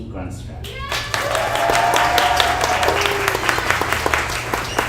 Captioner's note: audience applauds